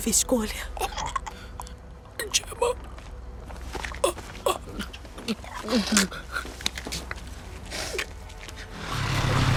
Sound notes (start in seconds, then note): 0.1 gasps; 5.4 choking